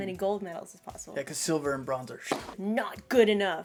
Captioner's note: tennis ball sound